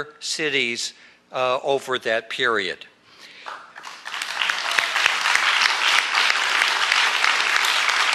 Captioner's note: applause